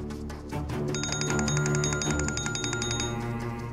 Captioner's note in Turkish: Telefon çalıyor